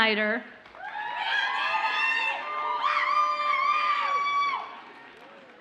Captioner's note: audience cheers and applauds